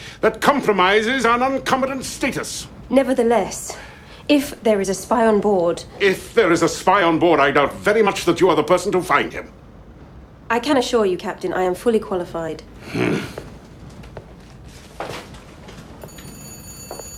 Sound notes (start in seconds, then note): 12.8 grunting